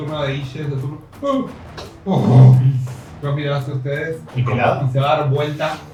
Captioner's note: confused grunts